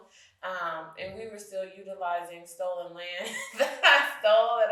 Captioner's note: chuckles